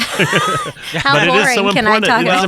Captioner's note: laughing